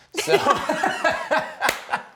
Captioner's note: laughter